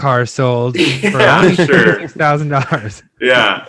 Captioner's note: laughs